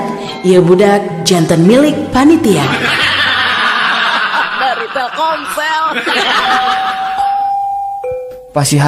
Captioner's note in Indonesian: tertawa